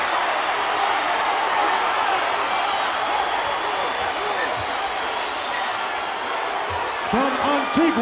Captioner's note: applause